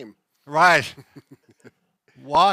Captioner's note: laughing